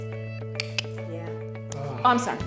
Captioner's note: clicks tongue